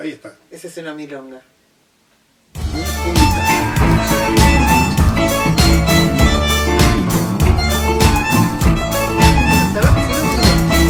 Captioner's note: laughs